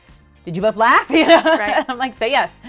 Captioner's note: laughs